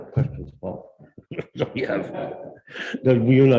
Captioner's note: laughs